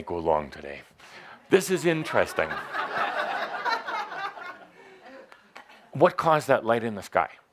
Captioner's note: laughter